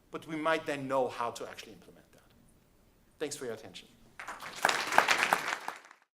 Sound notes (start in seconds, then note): 4.2 applauding